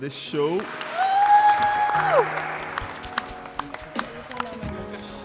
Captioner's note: audience applauds